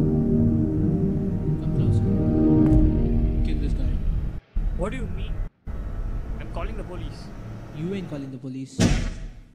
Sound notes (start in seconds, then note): 8.8 punch